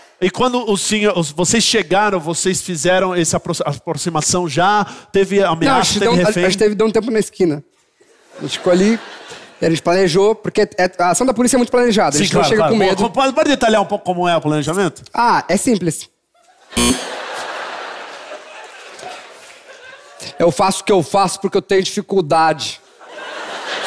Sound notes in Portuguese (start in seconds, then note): 16.8 campainha